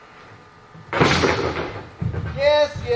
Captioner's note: sword falls